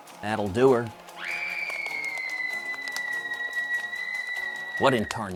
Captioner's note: woman screams outside